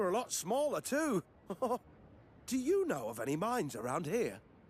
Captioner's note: chuckles